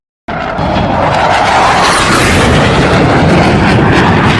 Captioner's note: plane engine roars